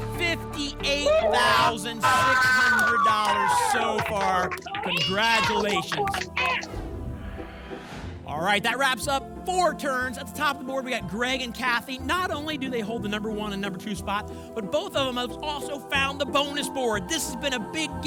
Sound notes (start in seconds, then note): 2.0 applause and cheering; 6.8 whoosh